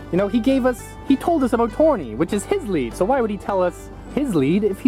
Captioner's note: none